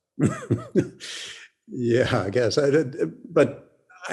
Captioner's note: laughs